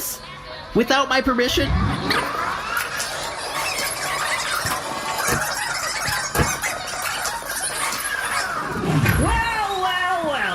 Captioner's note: fast-forwarding noise